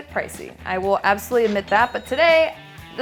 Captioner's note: cash register chimes